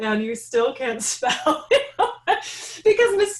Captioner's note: laughing